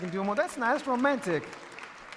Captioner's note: audience cheering